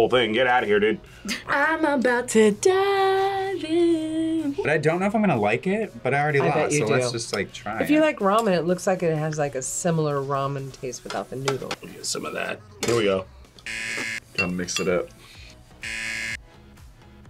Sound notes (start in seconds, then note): 13.6 buzzer rings; 15.8 buzzer rings